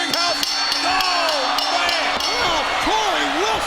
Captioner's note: bell ringing